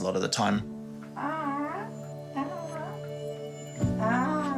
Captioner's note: murmurs